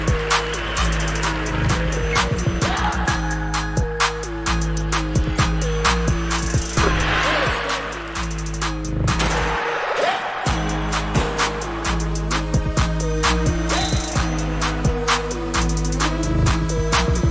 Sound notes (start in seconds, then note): 0.0 crowd applauding; 6.7 crowd cheering